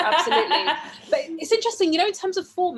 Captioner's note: laughs